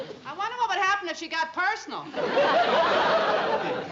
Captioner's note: laughter